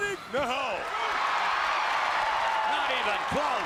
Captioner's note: crowd cheers